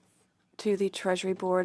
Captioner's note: speaking French